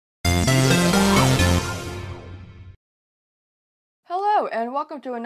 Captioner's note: electronic tones